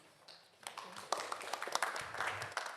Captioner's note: audience Applauding